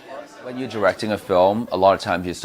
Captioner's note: all chattering